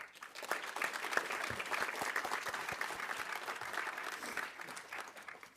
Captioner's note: audience applauding